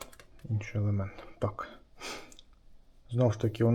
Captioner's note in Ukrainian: сопіння